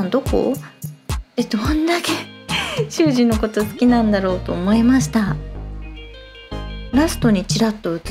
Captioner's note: laughs